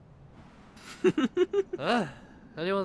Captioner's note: whispering; giggling